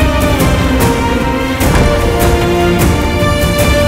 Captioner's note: Door closes